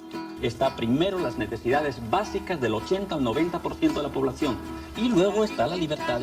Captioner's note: speaks in foreign language